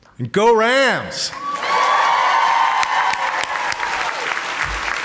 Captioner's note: audience applauding